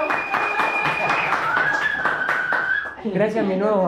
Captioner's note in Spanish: Aplausos